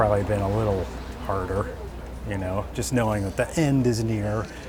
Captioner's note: traffic